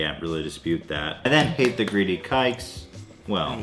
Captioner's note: claps